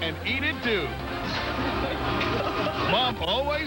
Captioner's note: woman, cracking up